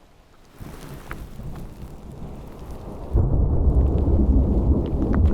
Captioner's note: thunder